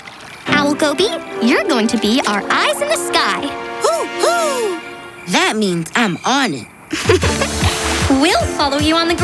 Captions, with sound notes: Owl Goby, you're going to be our eyes in the sky. [hooting] That means I'm on it. [laughing] We'll follow you on the ground.